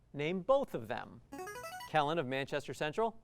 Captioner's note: buzzer